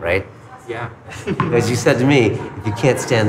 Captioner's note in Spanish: se ríe